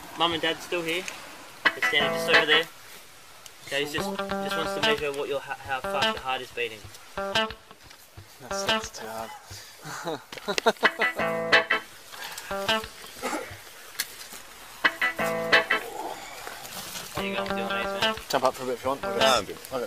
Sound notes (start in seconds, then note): 9.9 cop laughing